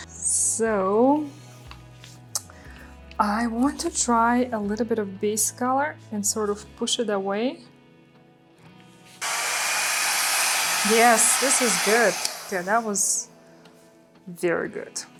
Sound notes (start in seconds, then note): 9.2 blower blows; 15.0 gentle music